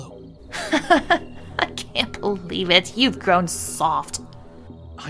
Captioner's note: Vivian laughs